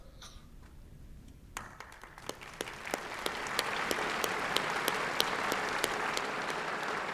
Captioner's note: applause